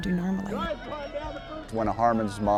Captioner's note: game sounds